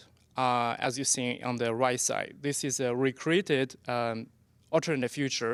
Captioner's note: none